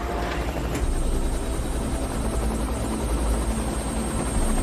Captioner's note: helicopter whirring